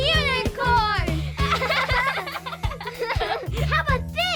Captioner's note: laughing